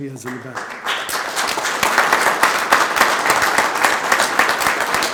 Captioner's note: group applauding